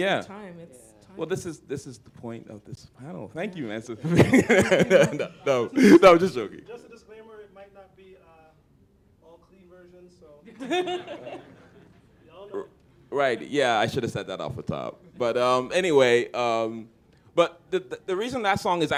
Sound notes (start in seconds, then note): 4.0 laughter